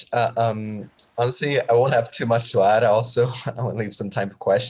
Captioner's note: chuckles